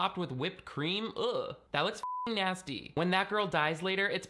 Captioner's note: beeping